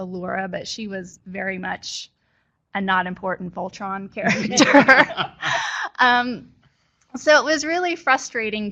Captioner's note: laughter